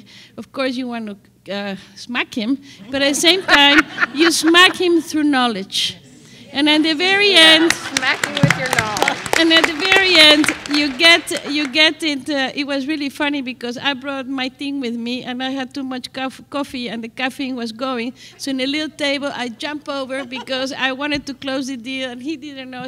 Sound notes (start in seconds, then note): 7.4 applause